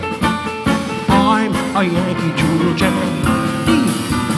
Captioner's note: Don murmuring